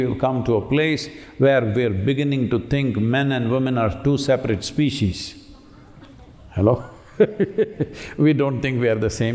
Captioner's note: laughs